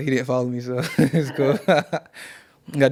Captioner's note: laughing